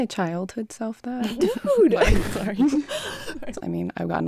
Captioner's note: laughs